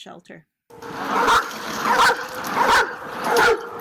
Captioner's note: dog barks